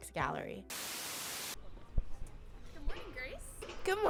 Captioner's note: static buzzes